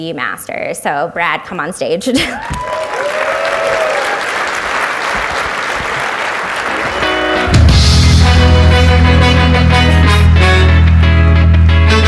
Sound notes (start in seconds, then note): 2.3 audience applauds